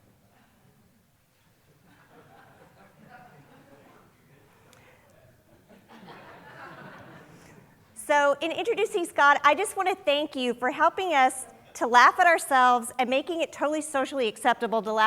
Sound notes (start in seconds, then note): 3.2 audience members murmuring; 5.6 audience laughing